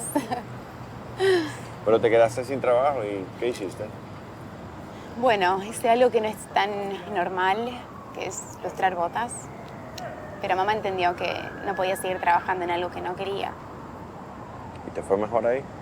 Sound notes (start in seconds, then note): 0.0 laughing; 9.2 siren